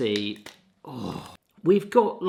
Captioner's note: groaning